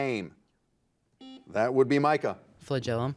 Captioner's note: buzzer beeping